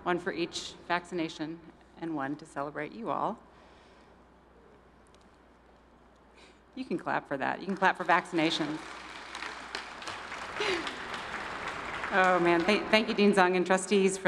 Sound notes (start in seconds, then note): 9.3 audience applauding; 10.6 laughs